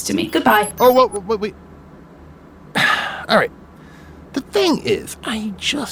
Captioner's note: sigh